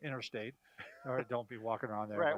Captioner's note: laughs